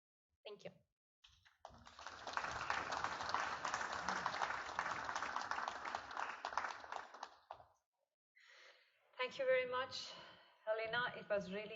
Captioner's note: applause